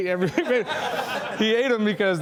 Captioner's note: laughing